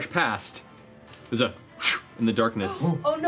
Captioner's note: swoosh